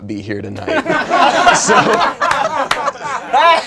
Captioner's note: laughing